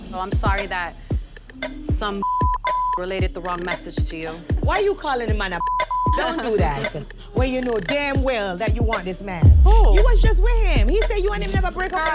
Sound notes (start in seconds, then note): 5.9 people laughing